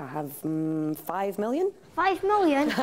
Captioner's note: audience laughs